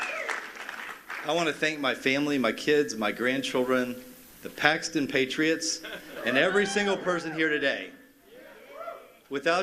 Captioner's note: cheers and applause